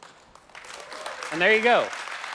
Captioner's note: applause